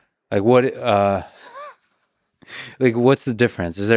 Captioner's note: laughs